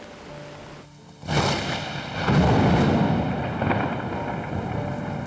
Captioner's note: thunder crashing